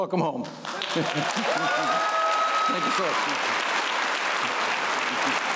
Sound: applause

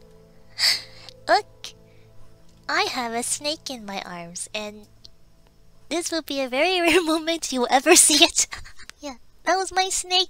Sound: laughs

